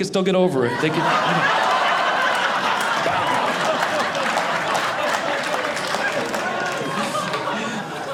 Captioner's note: audience laughing